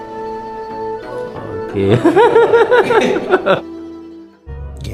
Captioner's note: laugh